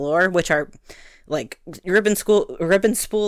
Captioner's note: breathe